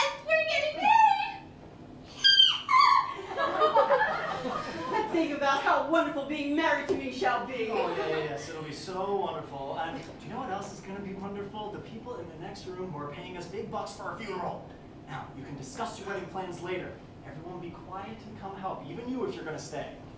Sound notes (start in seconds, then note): 2.1 Corrine Nervously Squeals; 2.7 laughter; 7.9 laughter